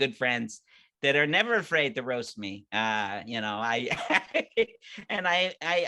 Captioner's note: laughing